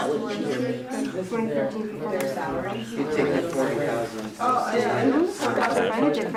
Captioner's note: students chattering